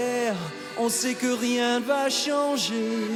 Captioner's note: none